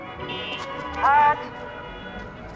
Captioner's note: traffic honking